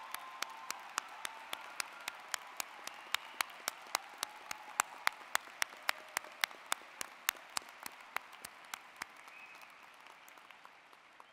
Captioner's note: applplause